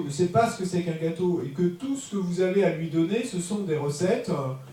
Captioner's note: French